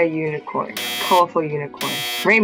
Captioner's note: buzzer sounds